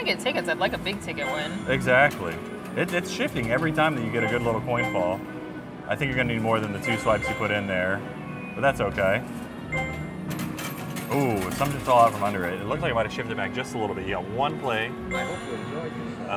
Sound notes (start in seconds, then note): 9.7 coins clinking; 15.0 screen chimes